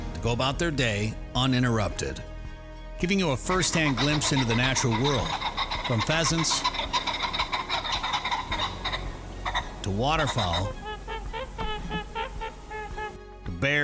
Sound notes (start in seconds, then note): 7.6 pheasants calling; 11.4 waterfowl calling